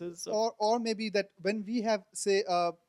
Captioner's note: voiceover